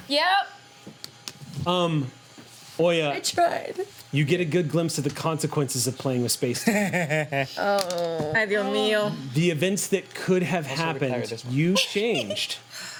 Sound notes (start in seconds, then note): 7.2 groans; 7.2 laughs